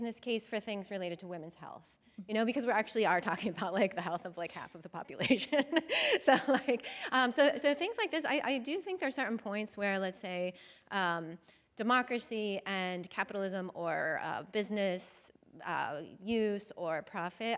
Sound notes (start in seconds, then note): 5.2 chuckles